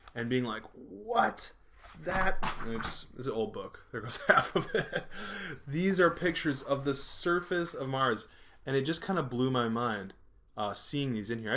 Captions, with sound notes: and being like, "What?!" That-- oops. It's an old book-- there goes half of it. (laughing) These are pictures of the surface of Mars. And it just kind of blew my mind, seeing these in here.